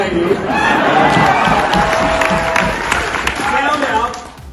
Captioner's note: audience applauding